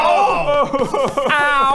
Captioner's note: pitiful cry